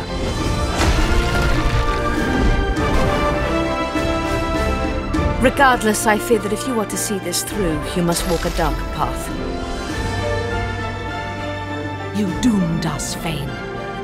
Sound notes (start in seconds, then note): 0.2 smashing rubble; 1.5 magic fx; 2.9 jumping woosh